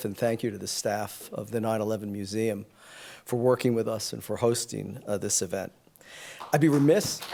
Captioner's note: applause